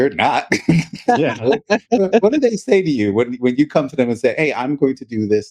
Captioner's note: both Laughing